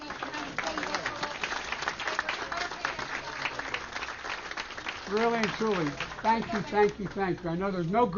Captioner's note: applause